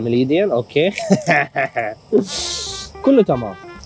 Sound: laughing

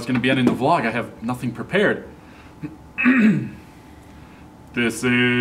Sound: clears throat

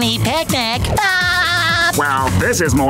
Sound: laughing

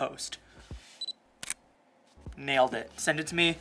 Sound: camera clicks

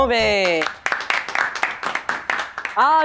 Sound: applause

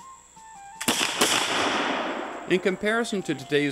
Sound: gunshots

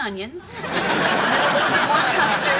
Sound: audience laughing

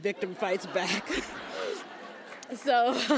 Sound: laughs

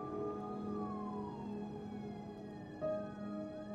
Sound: sirens in the distance

